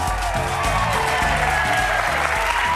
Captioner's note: audience cheering; audience applauding